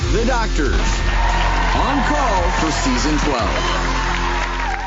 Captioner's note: crowd cheering